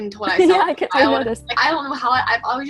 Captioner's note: laughs